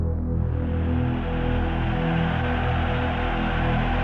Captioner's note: crowd cheering